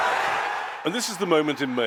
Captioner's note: cheering